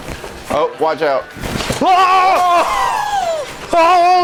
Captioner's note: things breaking